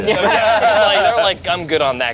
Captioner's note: group laughs